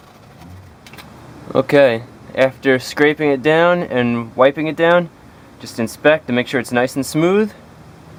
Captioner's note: scraping